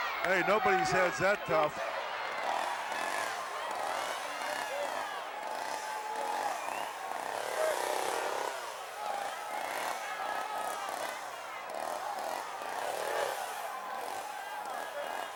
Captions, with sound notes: Hey, nobody's head's that tough. (chainsaw revving) (audience murmuring)